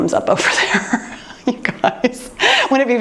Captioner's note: laughs